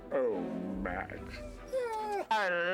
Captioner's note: whining